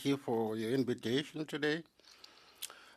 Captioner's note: speaking French